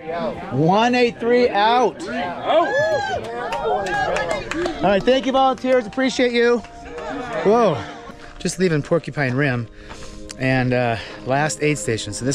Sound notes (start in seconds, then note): 2.4 crowd cheers and applauds